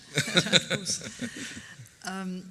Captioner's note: laughs